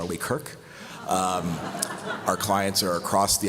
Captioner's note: laughter